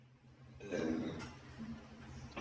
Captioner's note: Burps